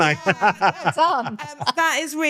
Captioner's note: laughing